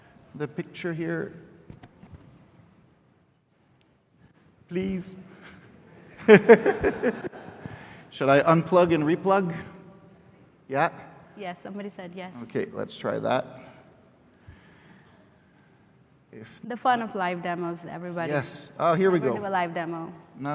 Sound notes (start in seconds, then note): 6.1 laughter